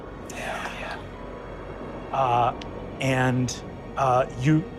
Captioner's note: whispers